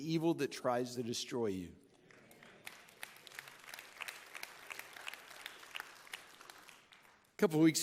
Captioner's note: audience clapping